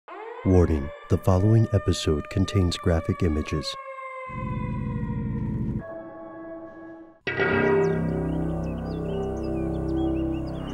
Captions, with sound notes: - [Voiceover] Warning, the following episiode contains graphic images. (dramatic music)